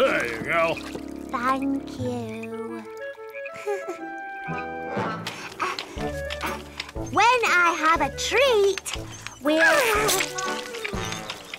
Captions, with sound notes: - There you go. - Thank you. (giggles) When I have a treat, we'll...